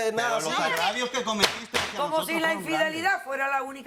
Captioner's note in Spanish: Hablan al unísono